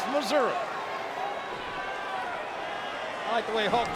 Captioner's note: crowd clamoring